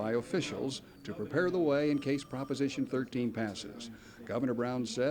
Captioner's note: phone rings in background